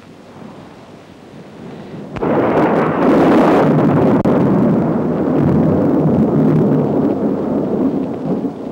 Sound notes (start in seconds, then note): 2.1 thunder rumbling